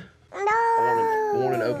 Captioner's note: babbles